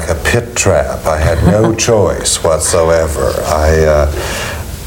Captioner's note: chuckles